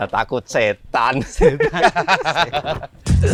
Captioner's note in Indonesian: Mereka terkekeh